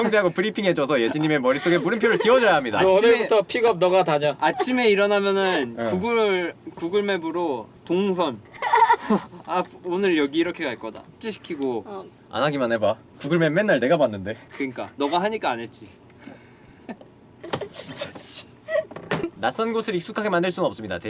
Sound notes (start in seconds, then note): 8.5 laughter; 16.7 laughter